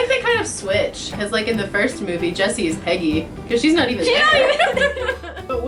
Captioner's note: laughter